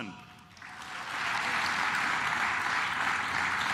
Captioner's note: claps